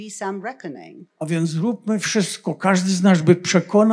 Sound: foreign language

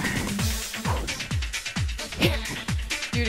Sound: exhales

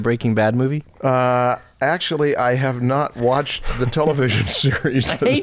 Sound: laughter

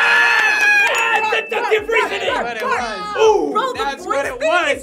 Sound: group yells and claps

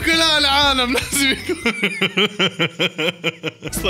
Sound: laughter

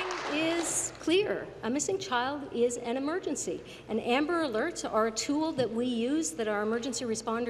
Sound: applause

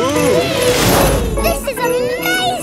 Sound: all exclaiming

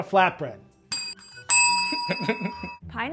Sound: bells ring; chuckles

